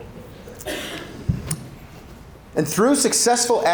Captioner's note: audience chuckling; attendee coughing